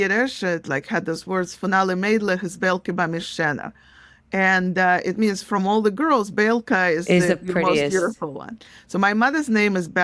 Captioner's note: Yiddish